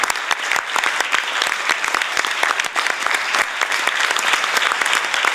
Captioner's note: applause